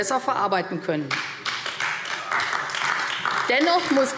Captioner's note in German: Beifall AfD